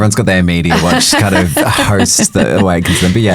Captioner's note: chuckling